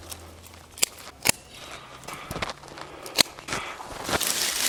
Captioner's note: snipping